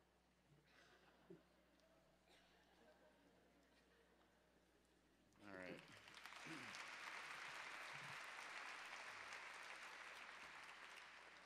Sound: symposium audience applause

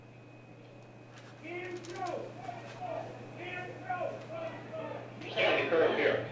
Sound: chanting; crowd chanting

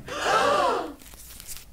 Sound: gasp

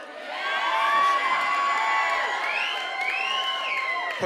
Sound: whooping and whistling

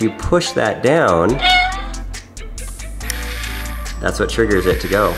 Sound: cat meows

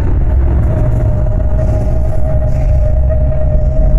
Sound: terrifying roar of the dome

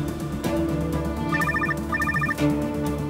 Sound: phone rings

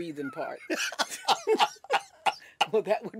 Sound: laughter

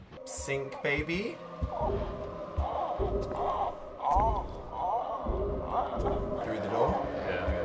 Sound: baby crying

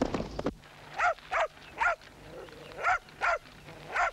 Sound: dog barking

